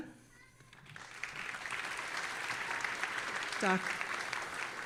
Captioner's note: audience applauding